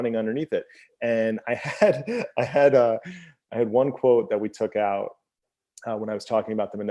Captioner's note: laughs